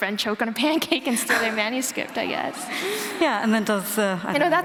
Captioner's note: laughter